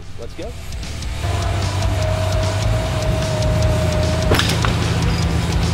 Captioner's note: energetic rock music; winch whirring; cable snapping